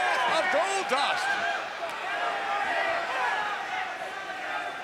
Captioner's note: crowd yelling